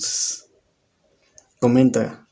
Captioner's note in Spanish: Silencio